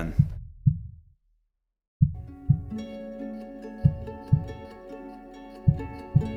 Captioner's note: heart beating; gentle harp music